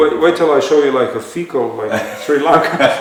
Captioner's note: laughter